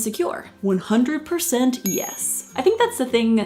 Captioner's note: dinging